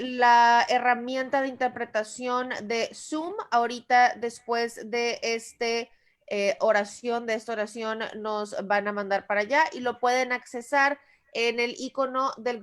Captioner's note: Spanish